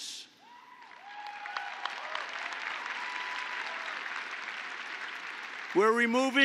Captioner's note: applause